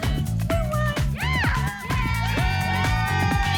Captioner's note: cheering